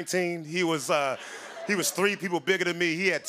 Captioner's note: laughter